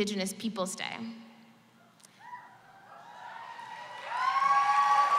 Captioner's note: cheers And Applause